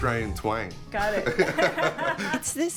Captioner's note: laughter